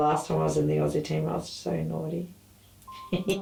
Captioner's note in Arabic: يضحك